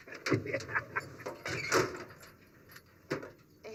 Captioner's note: laughs